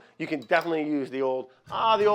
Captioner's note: none